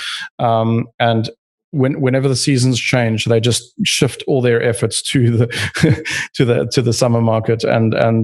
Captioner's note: laughs